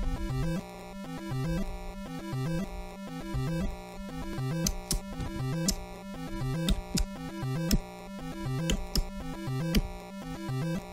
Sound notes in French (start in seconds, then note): 0.3 la musique se répète; 4.5 beatbox